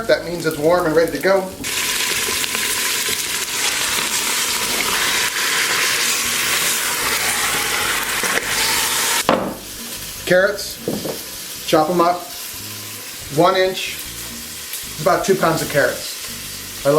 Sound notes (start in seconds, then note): 1.9 oil sizzling